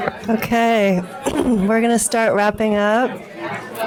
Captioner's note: clears throat